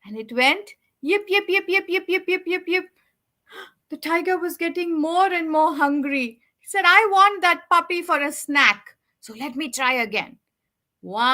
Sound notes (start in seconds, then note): 3.5 gasps